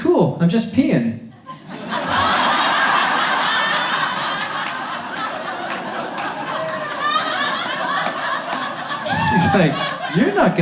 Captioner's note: audience laughs